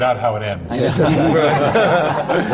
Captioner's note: laughter